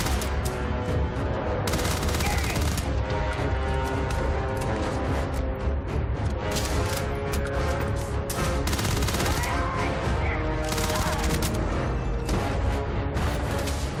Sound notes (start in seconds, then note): 3.3 enemies yelling